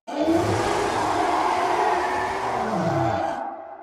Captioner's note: Reaper leviathan roar